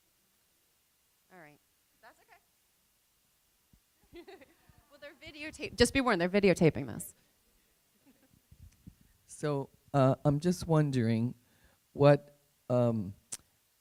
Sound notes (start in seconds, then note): 4.1 laughing